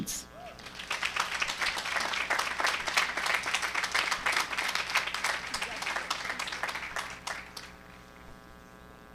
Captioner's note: applause